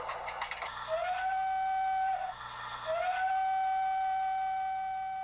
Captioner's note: train whistling